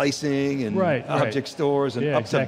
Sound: laughing

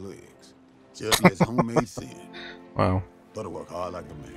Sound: laughing

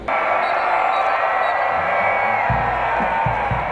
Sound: whistles blowing, students cheering

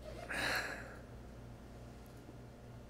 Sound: sighs

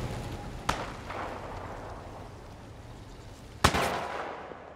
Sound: gun firing

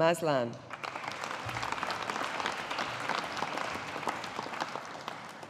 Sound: audience applauding

